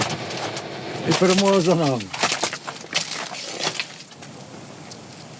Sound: sounds of footsteps on broken glass

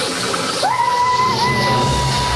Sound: cheering

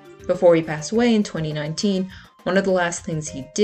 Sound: none

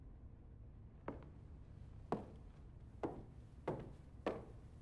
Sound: footsteps

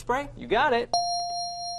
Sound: ding

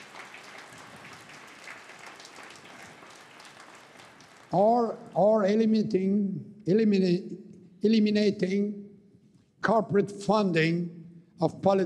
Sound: cheering and APPLAUSE

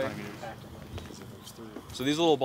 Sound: workers chattering

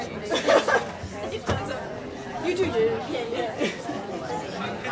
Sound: people chattering; woman laughs

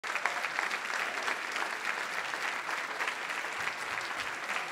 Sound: audience applauding

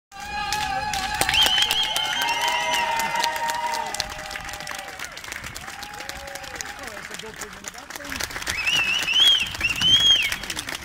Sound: Applause as Ian Allinson leaves the Fujitsu building

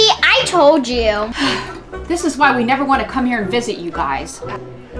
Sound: sigh

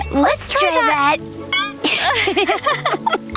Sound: laughing

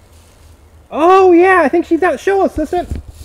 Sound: voiceover

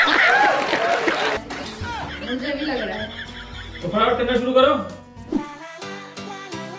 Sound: applause

